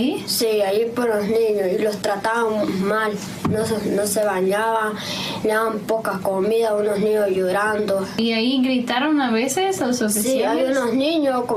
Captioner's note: speaking foreign language